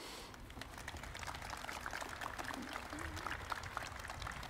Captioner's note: crowd applauding